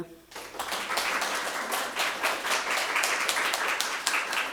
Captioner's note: audience applauding